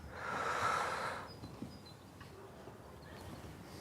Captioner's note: breathing heavily